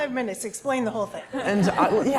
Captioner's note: laugh